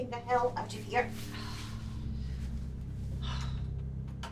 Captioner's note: Linda sighs